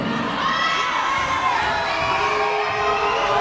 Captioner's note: yelling